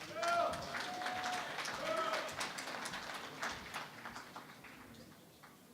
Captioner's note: applause